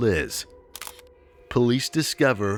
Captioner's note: camera shutter snapping